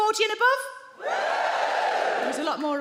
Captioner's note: audience woos